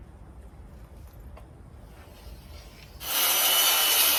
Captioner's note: pencil drags across wood; circular saw saws loudly